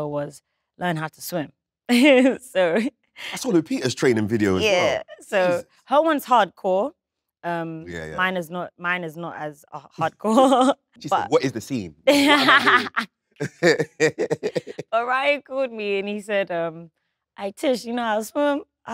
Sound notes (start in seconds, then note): 3.5 chuckles; 11.1 chuckles; 11.9 Letitia laughs; 13.4 John chuckling